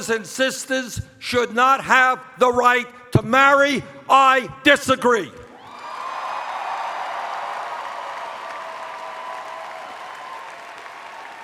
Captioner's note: cheers